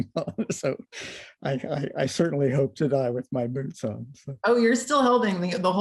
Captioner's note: laughter